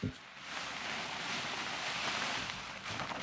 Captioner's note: rustling